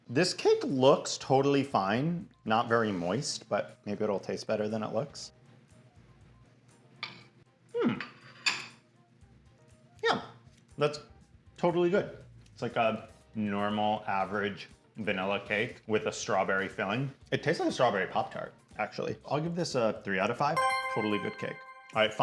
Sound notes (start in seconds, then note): 7.7 dish clinking